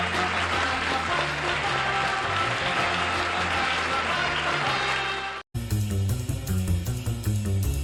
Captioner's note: applause